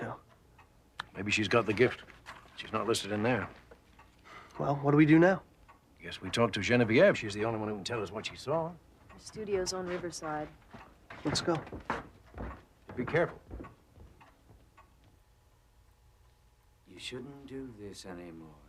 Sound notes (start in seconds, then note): none